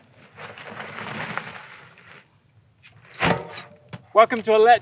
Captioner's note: dirt grinding